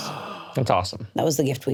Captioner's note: gasps